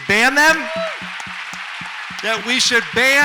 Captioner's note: audience applauds